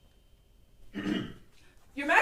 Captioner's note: ahem